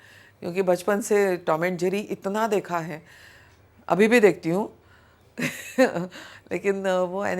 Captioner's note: chuckles